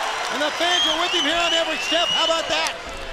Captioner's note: crowd cheering